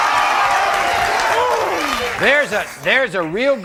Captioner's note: audience cheering; groans